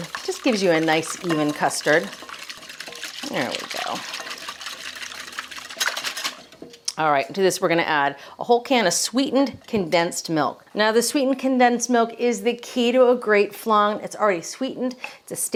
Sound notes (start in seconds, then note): 4.4 eggs whisking